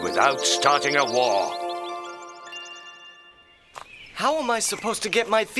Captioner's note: birds chirping